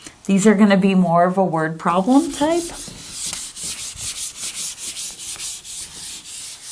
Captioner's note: eraser wiping board